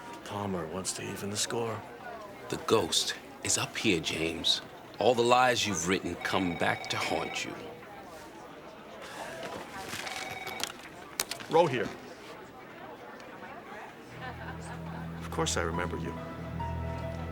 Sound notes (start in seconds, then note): 9.7 phone ringing; 17.1 ominous music